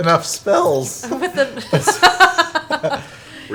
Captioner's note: laughs